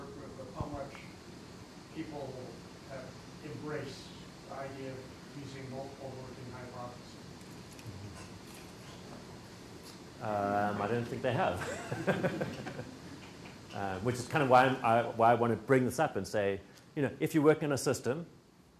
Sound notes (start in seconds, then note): 11.6 laughs